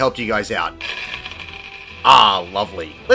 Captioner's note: small pile of money falling onto a table